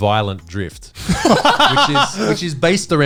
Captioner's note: all laughing